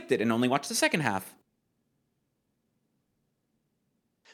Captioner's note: pained silence